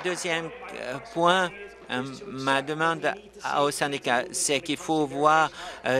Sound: applause

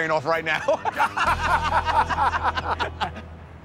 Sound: laughter

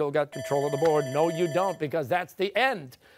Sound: bell rings

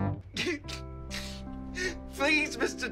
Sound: TROY crying

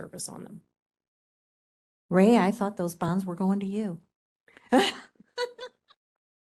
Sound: laughing

